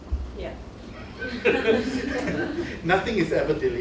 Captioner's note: laughter